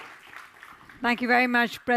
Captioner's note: audience applause